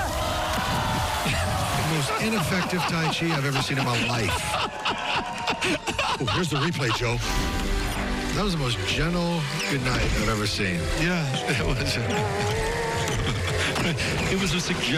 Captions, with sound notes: The most ineffective tai chi I've ever seen in my life. [ Laughs ] Here's the replay, Joe. That was the most gentle goodnight I've ever seen. Yeah, it was. [ Chuckles ] It was a suggestion by the fish. It was a suggestion by the fish.